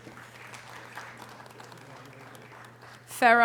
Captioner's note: audience applause